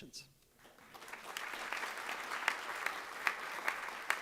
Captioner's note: applause